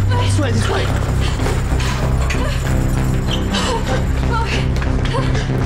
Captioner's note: Nancy and Jonathan panting